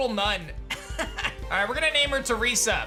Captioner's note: laughs